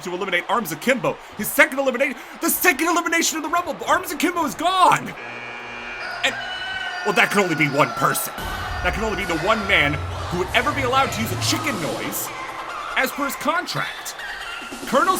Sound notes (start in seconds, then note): 5.2 buzzer buzzes; 5.8 rooster crowing